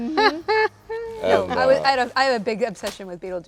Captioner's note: Winona laughing